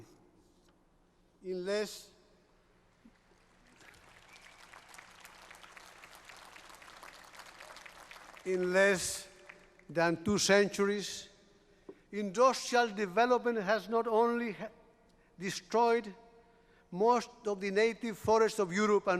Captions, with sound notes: [APPLAUSE] In less than two centuries, industrial development has not only destroyed most of the native forests of Europe